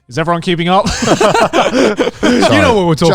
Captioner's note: group laughs